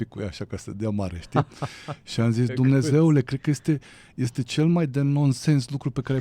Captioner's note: laughter